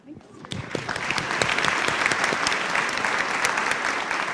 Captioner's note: applause